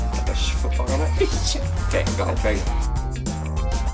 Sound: laughs

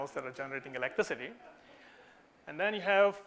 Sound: audience laughs softly

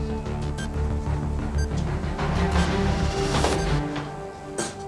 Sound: bomb continues beeping

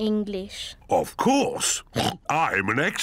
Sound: oinks

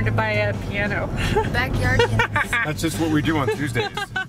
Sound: laughing

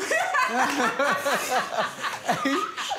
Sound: laughter

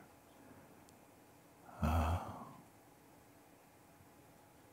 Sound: silence

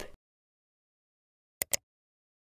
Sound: click

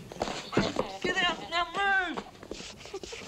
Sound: Betty laughing

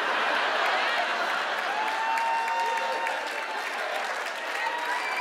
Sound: cheers and applause

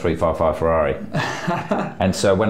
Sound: laughs

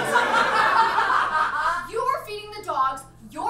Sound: audience laughs

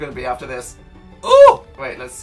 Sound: moans

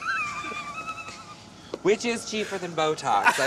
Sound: laughs

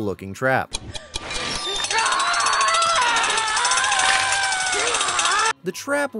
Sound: simone and eddie screaming

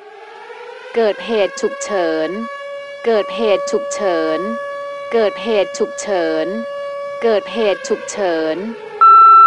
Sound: siren

